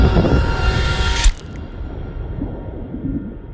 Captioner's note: striking sound